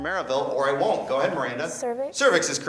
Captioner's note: beeping